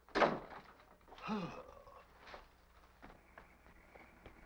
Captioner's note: Vitamin groans